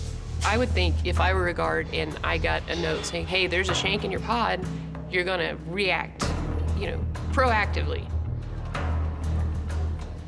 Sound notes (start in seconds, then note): none